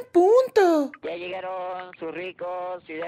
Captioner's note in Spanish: Sonido tamalero en la calle